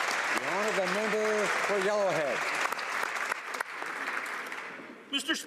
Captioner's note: applause